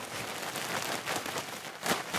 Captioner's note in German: Rascheln